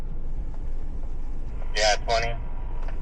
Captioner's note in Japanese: 無線の通信